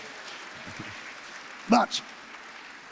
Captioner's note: applause